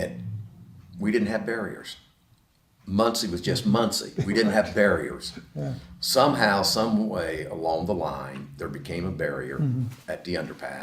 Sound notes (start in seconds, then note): 3.8 laughs